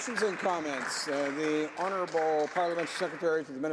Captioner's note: some Applause